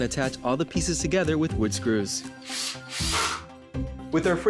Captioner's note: drill whirring